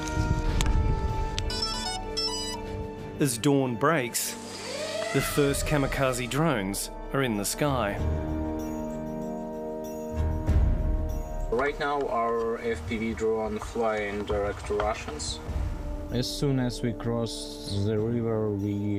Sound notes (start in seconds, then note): 1.4 beeping